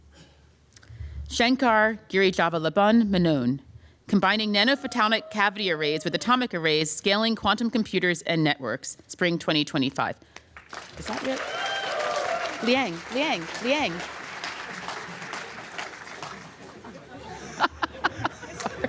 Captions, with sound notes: Shankar Girijavallabhan Menon "Combining nanophotonic cavity arrays with atomic arrays scaling quantum computers and networks," spring 2025. Is that your-- Liang, Liang, Liang. [APPLAUSE] [LAUGHTER]